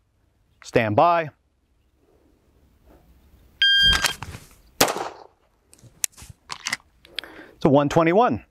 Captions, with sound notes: Standby. (signal chiming) (gun firing) (gun clicking) To 1.21.